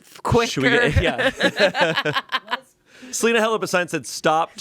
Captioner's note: everyone laughs